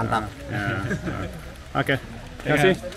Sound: laughing

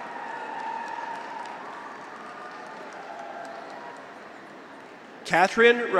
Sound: graduates cheer; audience applauds

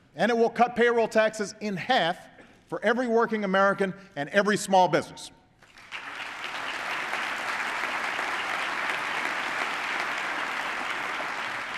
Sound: applause

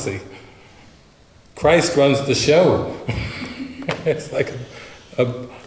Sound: laughs

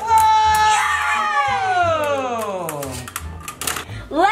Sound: yells

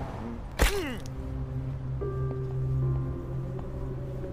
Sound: grunting

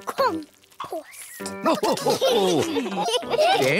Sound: all laugh

